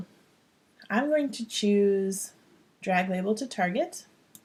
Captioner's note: click